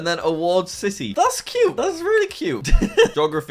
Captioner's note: laughs